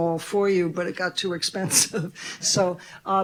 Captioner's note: chuckles